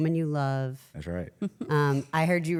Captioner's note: laughs